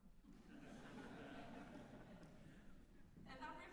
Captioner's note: laughter